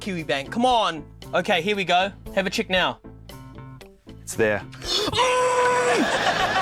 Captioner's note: strains